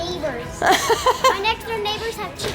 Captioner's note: laughs